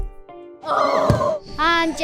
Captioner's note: cheering